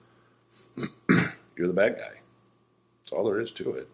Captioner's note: coughs